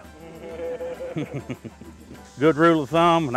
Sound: laughter

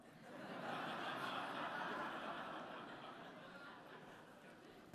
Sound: audience laughing

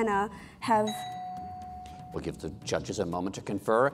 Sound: bell dings

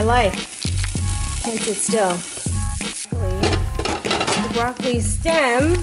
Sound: pan is sizzling

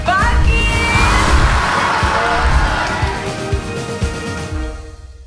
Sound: cheering

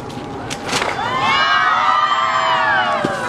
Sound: cheers from crowd

